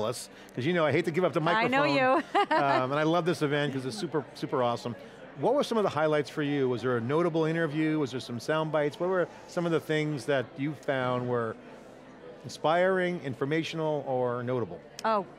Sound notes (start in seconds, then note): 2.2 laughs